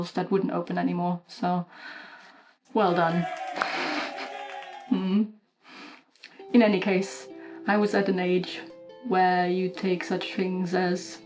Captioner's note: cheering